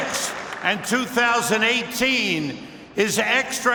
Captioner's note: cheers and applause